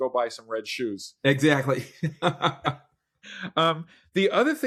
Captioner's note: laughs